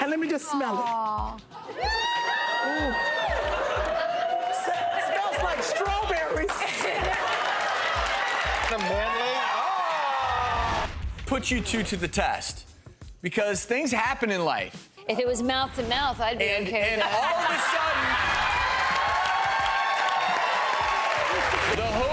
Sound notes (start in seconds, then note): 1.9 audience excitedly cheering; 6.7 audience applauding; 6.7 audience laughing; 16.9 audience laughing; 19.2 audience applauding